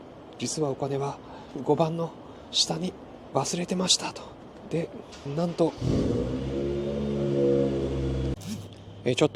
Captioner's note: street noise